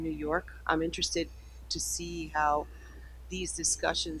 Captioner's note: none